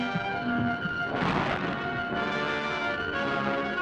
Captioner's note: tense instrumental music; explosion